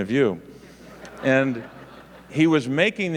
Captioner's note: audience laughing